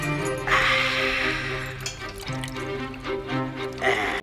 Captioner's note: Finn sighing